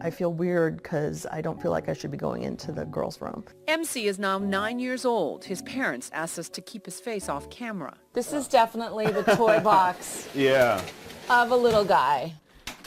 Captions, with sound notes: I feel weird because I don't feel like I should be going into the girls' room. >> MC is now nine years old. His parents asked us to keep his face off camera. >> This is definitely the toy box. >> [LAUGH] Yeah. >> Of a little guy.